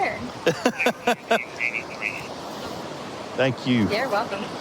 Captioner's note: laughing